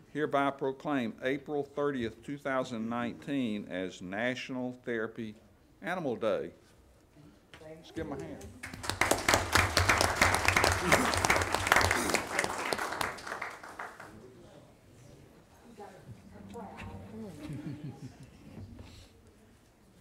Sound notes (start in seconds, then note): 8.0 chatter; 8.2 applause; 10.6 laughs